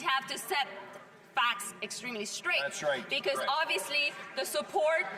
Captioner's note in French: voix de l'interprète